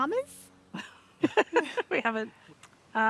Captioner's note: both laugh